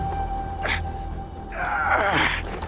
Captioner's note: groans